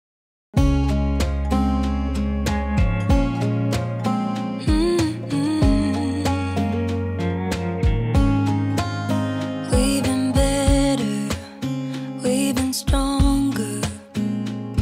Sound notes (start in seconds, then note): 0.6 gentle music; 4.6 soft humming